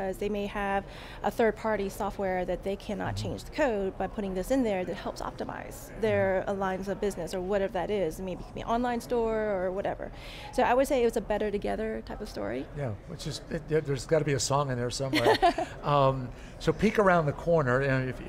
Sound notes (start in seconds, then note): 15.1 laughs